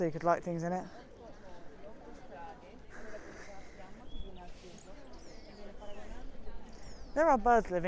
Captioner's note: birds chirrup